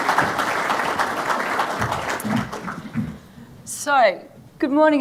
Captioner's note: audience clapping